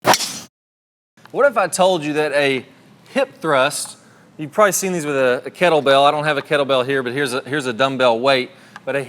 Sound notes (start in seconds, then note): 0.0 golf ball hitting club